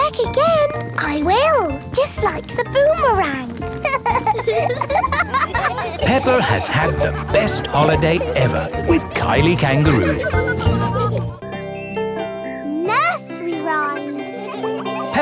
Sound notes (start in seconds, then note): 0.0 snorts; 3.6 laughing